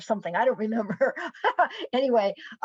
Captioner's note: laughs